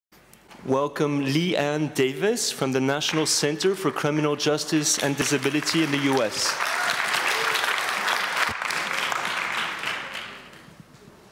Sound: applase

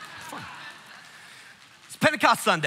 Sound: congregation laughing

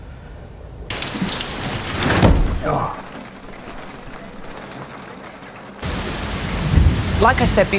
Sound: rain pours down more heavily, thunder rumbles in the distance

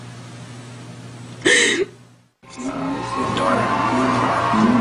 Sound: sobbing

